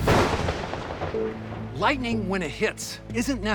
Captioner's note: thunder cracks